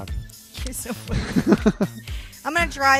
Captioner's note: laughs